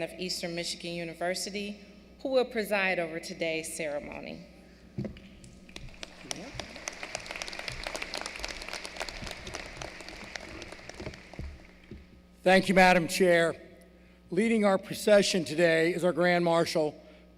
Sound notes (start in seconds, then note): 5.7 applause